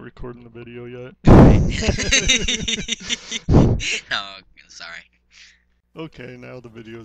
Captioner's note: laughter